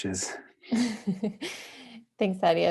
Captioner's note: chuckling